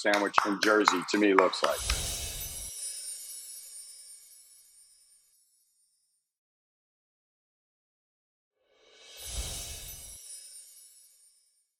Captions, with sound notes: from Jersey to me, looks like. (chimes ringing)